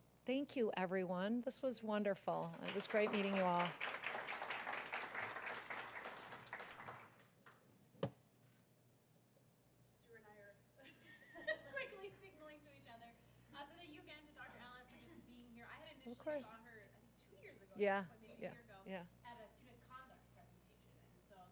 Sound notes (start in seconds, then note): 2.4 applause; 10.8 laugh